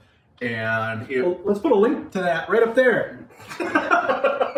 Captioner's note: laughing